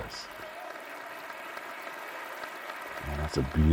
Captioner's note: audience cheering